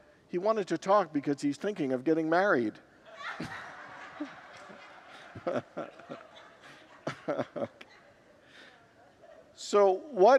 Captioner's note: congregants laugh